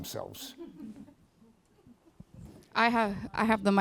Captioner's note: laughs